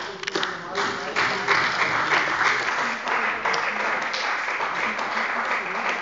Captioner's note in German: Beifall bei der CDU und dem BÜNDNIS 90/DIE GRÜNEN